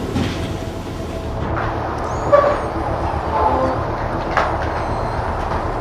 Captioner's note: wood creaking